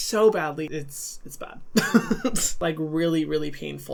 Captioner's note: laughing